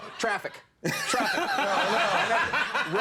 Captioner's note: crowd laughs